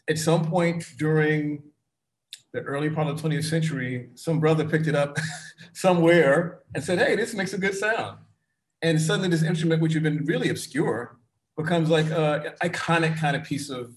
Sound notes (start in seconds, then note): 4.4 chuckles